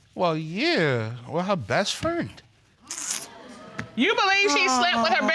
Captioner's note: clicks tongue